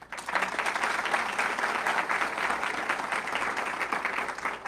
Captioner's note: audience clapping